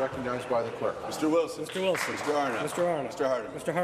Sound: some Applause

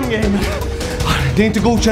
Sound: sigh

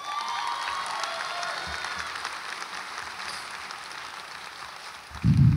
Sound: audience applauds and cheers

